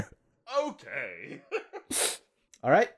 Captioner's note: laughter